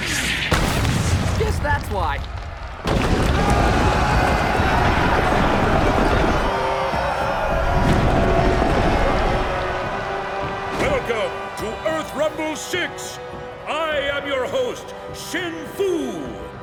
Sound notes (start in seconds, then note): 2.8 rumbling, cheering; 6.2 cheering